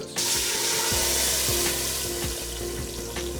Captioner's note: sizzling